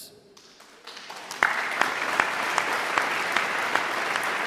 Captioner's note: audience applauding